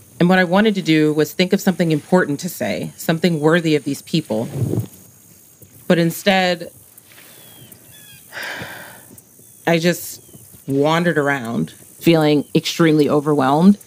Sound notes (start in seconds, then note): 8.2 sighs